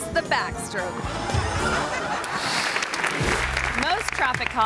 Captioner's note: audience laughs; audience applause